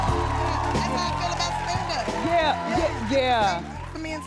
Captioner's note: chattering